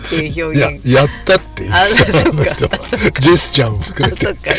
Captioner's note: laughs